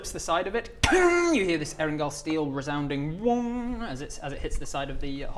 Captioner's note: wonnng